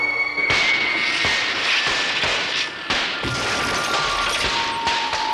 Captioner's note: cracks, pops and explosions